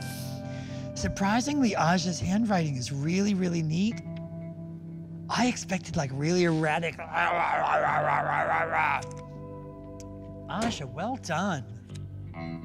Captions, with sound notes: Surprisingly, Aja's handwriting is really, really neat. I expected like really erratic. [growling] Aja well done!